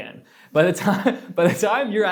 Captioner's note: laughs